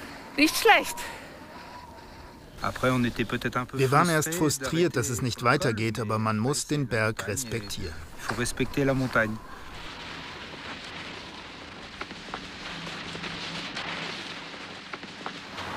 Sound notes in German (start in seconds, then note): 9.5 Leises Rauschen